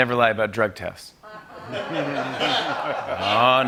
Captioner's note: laughter